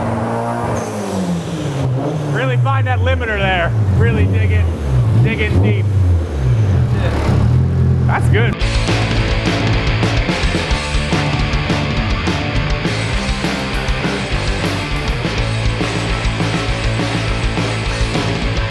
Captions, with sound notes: Really find that limiter there. Really dig in deep. (engine continues revving) That's good. (upbeat rock music)